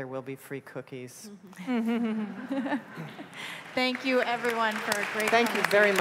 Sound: laughter

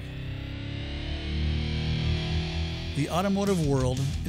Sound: engine revving

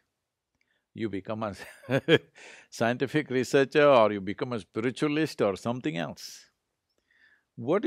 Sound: laughs

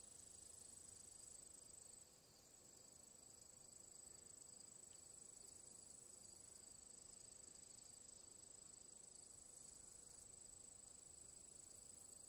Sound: insects buzzing, birds chirping, wind blowing

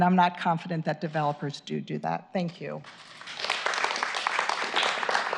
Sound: applause

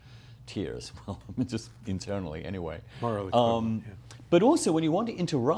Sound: chuckles

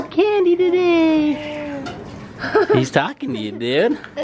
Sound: coos; laughs

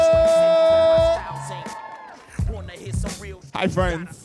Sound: audience cheering

